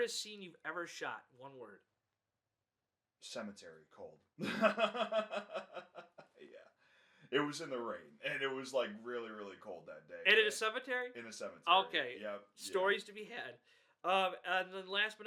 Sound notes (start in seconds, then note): 4.4 laughs